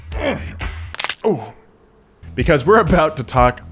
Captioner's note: bones cracking